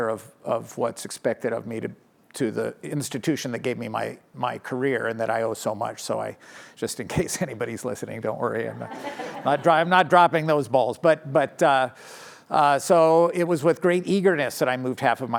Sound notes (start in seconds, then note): 8.7 laughter